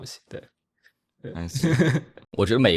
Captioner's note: laughs